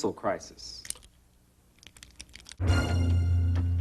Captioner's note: door knob sound; suspense music